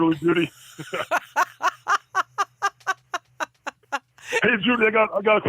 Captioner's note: laughs